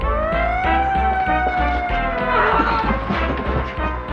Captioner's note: police siren